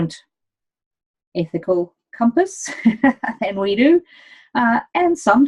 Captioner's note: chuckles